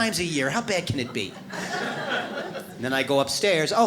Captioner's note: audience laughs